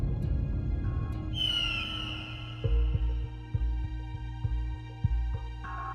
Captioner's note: bird screeching; tense music